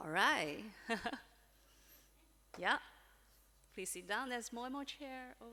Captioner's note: chuckles